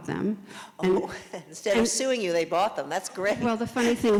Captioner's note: laughs